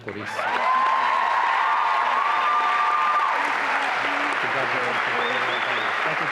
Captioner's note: applause and cheering